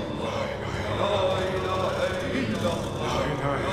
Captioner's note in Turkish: Erkek sesleri